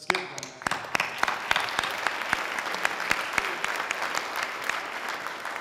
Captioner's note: sustained audience applause